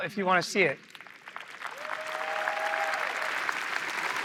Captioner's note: applause